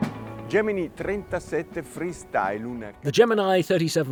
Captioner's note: in foreign language